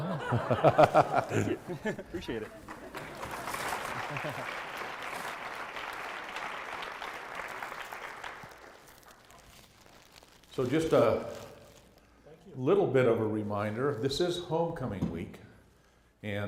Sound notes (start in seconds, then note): 2.1 applause